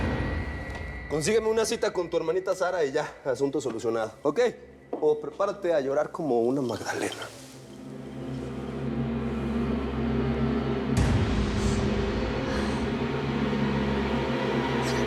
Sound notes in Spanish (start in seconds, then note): 13.6 sollozos